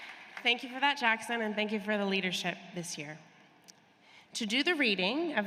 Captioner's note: applause